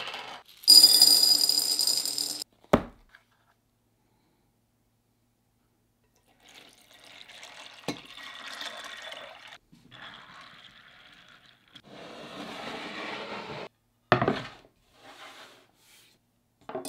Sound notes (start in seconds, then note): 0.6 chickpeas dropping; 6.2 water pouring; 14.1 board sliding